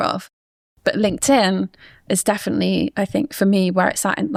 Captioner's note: none